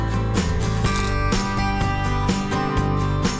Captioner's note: music and carabiner noise